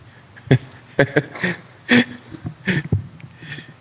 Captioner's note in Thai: เสียงหัวเราะ